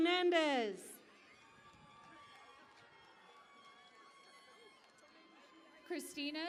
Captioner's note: cheering and Applause